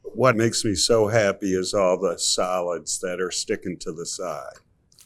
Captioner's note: none